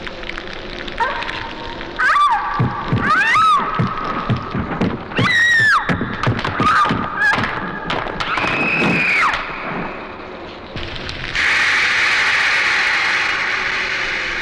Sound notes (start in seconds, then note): 1.9 screaming; 6.5 popcorn popping; 11.3 steam hisses